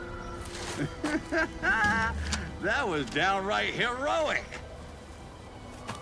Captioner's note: laughs